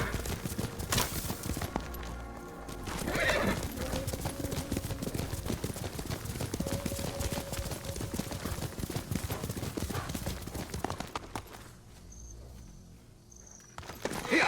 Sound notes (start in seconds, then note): 6.5 footsteps; 14.2 grunting